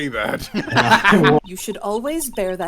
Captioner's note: laughter